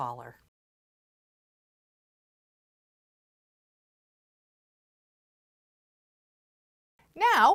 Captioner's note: no Sound Present